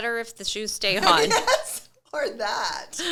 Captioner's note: laughing